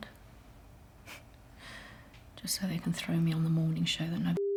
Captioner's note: chuckles